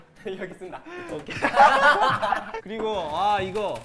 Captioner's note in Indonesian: Hahahahahahahahahaha